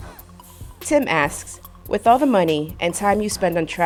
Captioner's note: voiceover